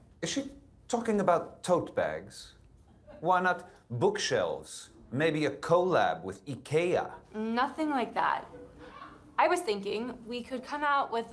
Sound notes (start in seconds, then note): 8.4 audience laughing